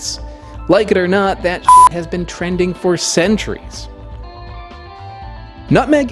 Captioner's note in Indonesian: toot